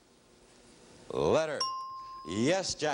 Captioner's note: ringing bell